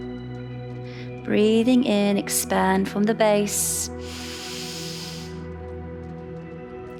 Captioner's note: calm music; inhales